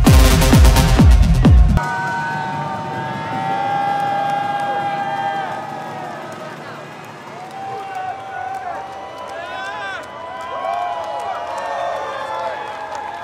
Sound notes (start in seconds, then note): 0.0 techno music continues; 2.2 crowd cheering and applauding